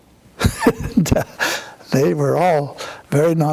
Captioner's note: laughs